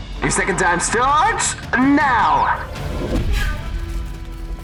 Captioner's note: none